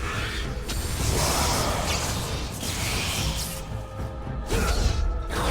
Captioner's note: lightning crackling; monster grunting; player grunting